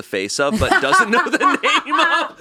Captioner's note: laughing